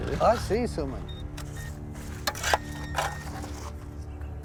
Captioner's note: beeping